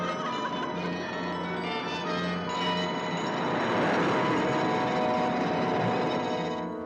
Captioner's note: Mora laughs; ominous music; sound of ocean